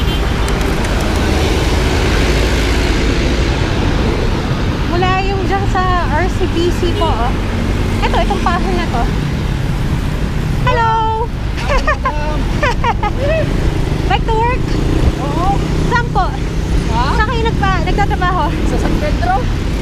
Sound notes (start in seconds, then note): 11.5 laughs